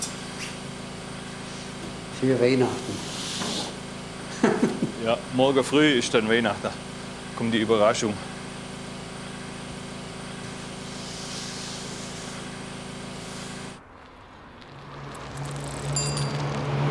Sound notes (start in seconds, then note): 0.0 steady hum; 4.3 laughter; 9.6 steady hum; 14.7 bicycle bell, street noise